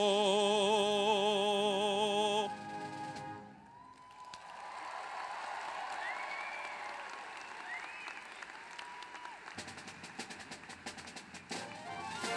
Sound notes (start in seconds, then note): 4.3 applause; 9.1 orchestra music